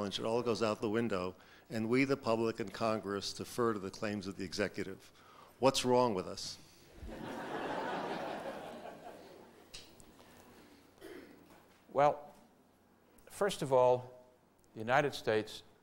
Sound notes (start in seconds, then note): 7.0 audience laughter